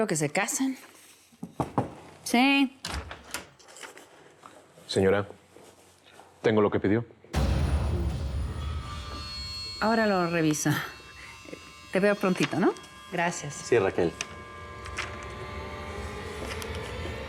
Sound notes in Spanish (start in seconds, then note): 1.8 tocan a la puerta; 2.9 ruido al entrar